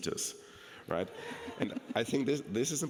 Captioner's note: people laughing